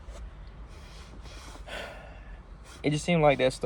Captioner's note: sigh